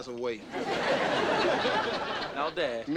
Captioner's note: audience laughing